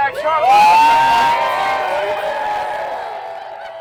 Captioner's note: loud cheering